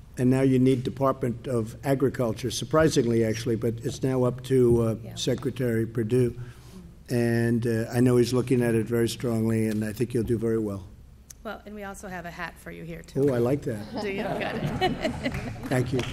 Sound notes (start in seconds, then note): 13.8 laughter